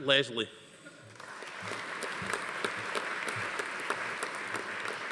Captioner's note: audience applauding